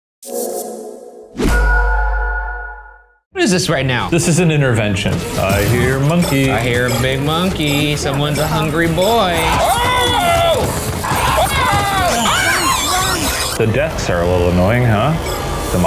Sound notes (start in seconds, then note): 11.0 screams; 12.1 Murder Monkey screeches